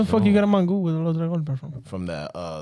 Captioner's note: speaking In Foreign Language